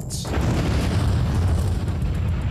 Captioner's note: explosion